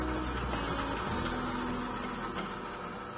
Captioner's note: machine whirrs